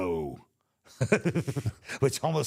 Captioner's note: both chuckling